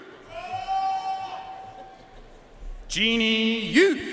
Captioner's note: audience cheering and applauding